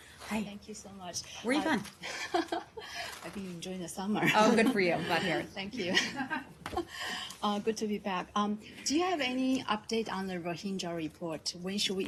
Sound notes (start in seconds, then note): 5.8 laughter